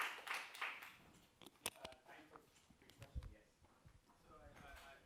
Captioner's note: applause